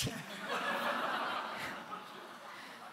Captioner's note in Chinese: 笑聲